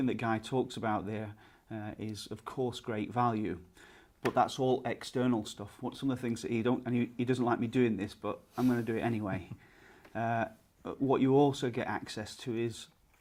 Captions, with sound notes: that Guy talks about there is, of course, great value, but that's all external stuff. What some of the things that you don't, and he doesn't like me doin' this, but, I'm gonna do it anyway. (laughs) What you also get access to is,